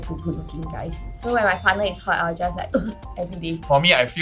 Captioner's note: shudder